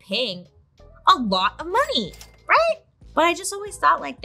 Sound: cash register chimes

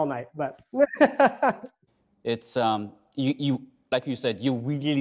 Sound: laughing

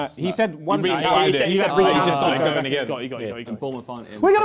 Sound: crowd mumbling

